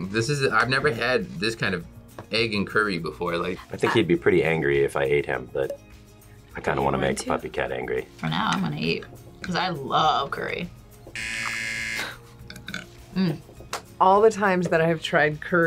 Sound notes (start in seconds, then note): 11.1 buzzer